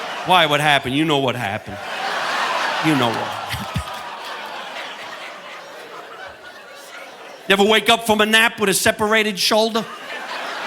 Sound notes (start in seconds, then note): 2.4 audience laughing; 4.5 chuckles